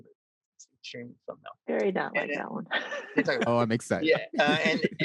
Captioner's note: laughs